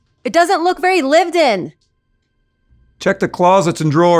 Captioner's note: none